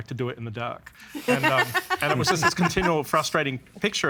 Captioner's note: laughing